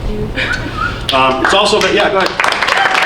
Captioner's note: audience applauding